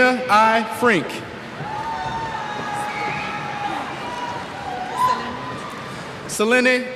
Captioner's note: cheers